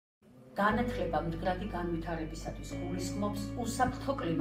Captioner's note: non-english speech